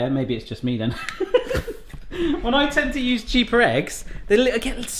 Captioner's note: laughs